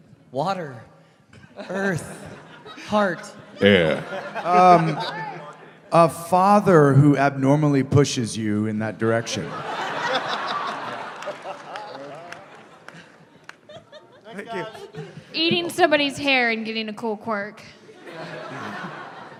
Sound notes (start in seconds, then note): 9.4 laughter; 11.4 laughing; 17.9 laughter